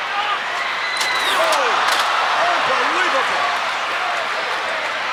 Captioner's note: ladder thunking; crowd chattering